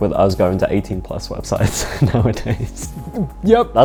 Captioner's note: laughs